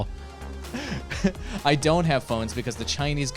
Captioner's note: laughs